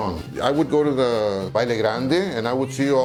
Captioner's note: speaks in Spanish